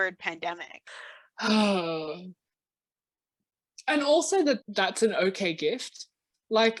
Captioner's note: sighs